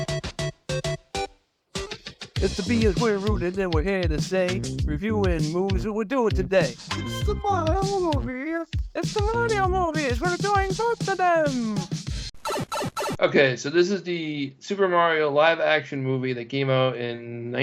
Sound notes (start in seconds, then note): 2.4 upbeat Music; 12.1 record Scratching